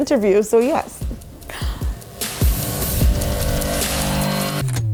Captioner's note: inhales